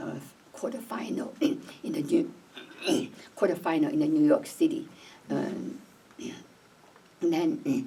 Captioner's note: clears throat